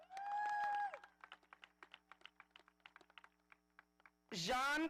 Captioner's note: audience applauding